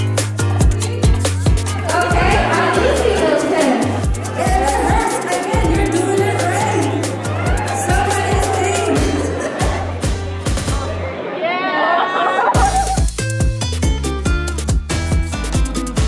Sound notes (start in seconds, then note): 0.2 upbeat music; 10.4 laughs; 10.6 cheering; 12.4 upbeat music